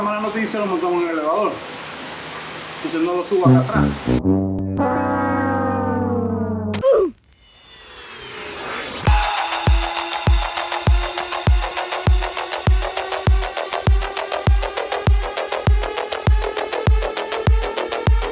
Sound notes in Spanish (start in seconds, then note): 7.3 tono sarcástico